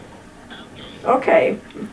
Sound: on phone

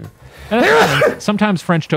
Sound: sneezes

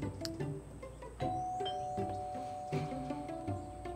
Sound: door bell

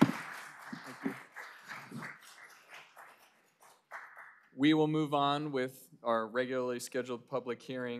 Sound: applause

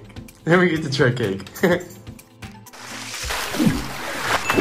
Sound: laughing

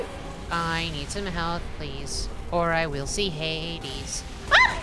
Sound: in a singsong voice

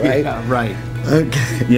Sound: laughing

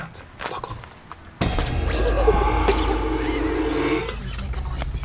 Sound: dramatic tune; growling

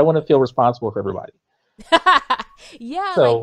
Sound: laughs

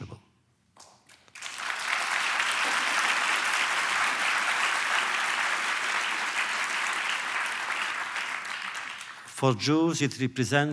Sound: applause

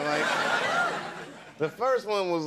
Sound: audience laughing

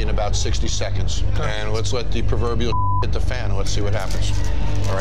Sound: beep

